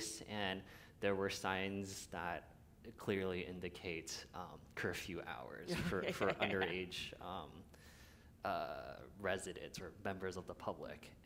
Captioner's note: laughter